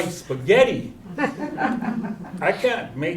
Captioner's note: chuckles